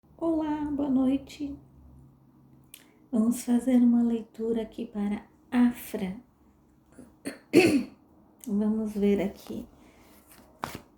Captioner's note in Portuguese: limpando a garganta